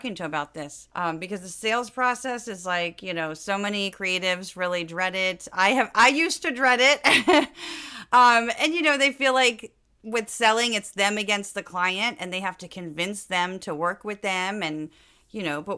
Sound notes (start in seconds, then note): 7.3 laugh